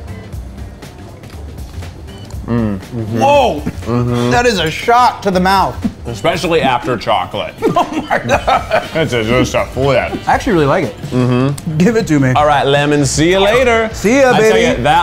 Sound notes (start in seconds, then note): 0.1 upbeat music; 8.6 laughs